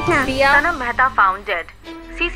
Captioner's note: News on TV